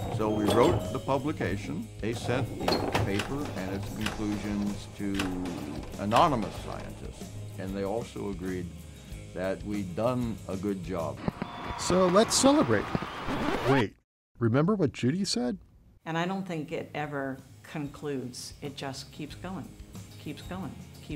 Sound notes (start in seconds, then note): 11.1 sound of fireworks; 13.2 rewind sound